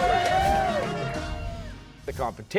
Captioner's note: cheers and applause